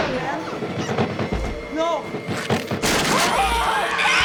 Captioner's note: shrieking, pounding continue; wood shatters; both screaming